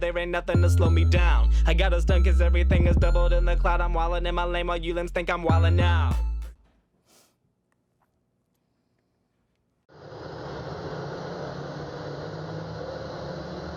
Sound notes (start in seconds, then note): 5.7 vocalizing; 10.0 truck rumbling